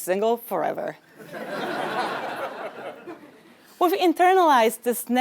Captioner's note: laugh